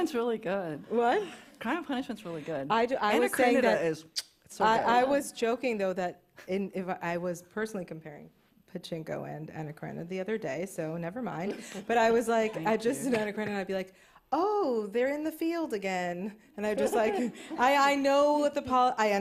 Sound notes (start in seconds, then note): 4.1 kisses